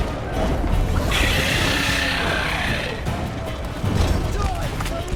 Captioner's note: screech